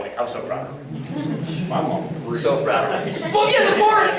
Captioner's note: laughter